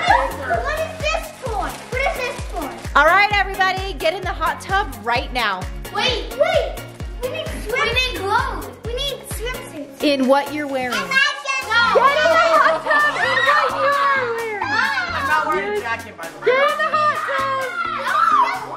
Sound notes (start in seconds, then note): 0.0 laughs; 11.8 laughs